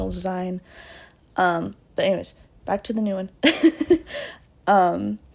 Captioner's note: laughs